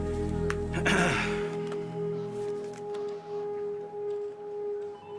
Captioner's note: Ian clears his throat